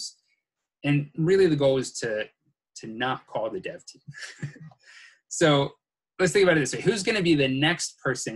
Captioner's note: chuckles